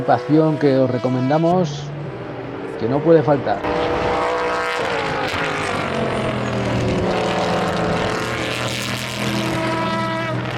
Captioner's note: motors